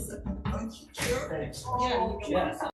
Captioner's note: nameplate slams